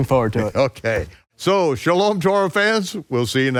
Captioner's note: laughs